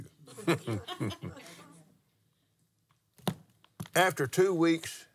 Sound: laughs

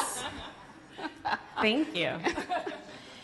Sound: laughs

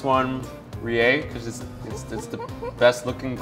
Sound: laughs; giggles

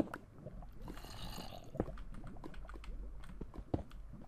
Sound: zombie growls

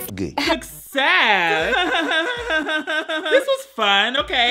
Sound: laughs

